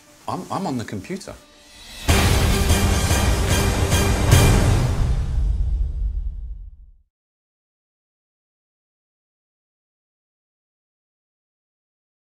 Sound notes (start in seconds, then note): 1.4 dramatic music builds; 4.6 explosion echoes